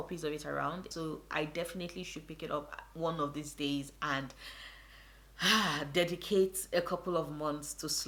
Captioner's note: sigh